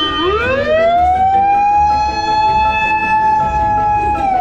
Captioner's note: oncoming ambulance